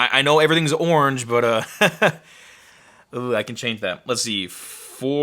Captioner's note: laughing